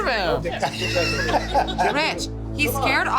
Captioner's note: man laughing